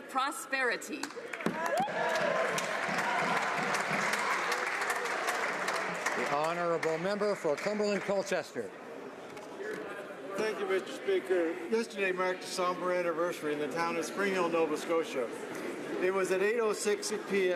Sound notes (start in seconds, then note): 6.7 some Applause